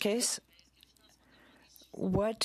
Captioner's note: speaking in French